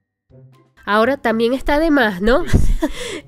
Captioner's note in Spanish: risas